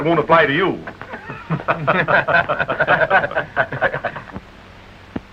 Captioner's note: chuckles & Laughter